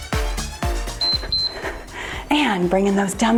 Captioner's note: timer beeps